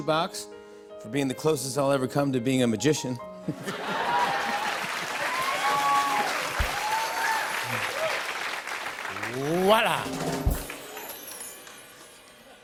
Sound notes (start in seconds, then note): 3.7 cheers and applause; 9.3 drum roll